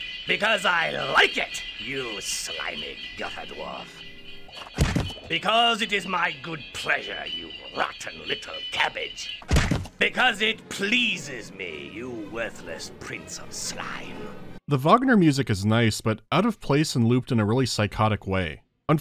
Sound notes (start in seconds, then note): 4.7 whack; 9.4 smack